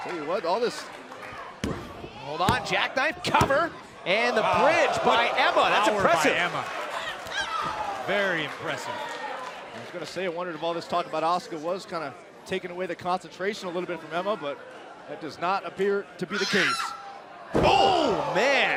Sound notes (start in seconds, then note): 7.9 crowd cheering; 18.5 crowd chatter